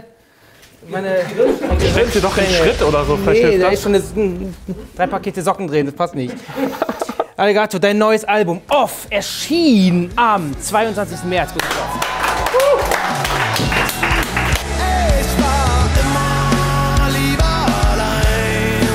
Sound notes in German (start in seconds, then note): 6.2 Lachen; 13.0 Jubel